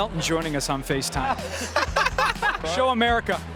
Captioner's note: both laughing